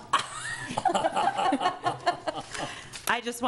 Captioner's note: laughing